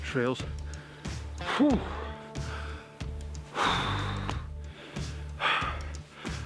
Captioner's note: deep breathing